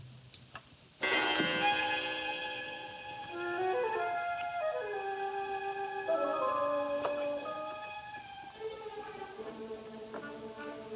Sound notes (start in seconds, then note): 1.0 clock chimes; 3.5 slow suspenseful music